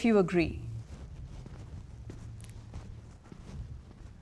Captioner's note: people walking